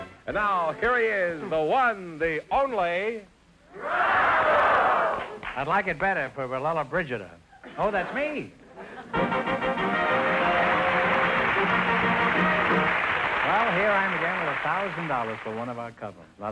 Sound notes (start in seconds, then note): 9.0 theme music; 10.0 applause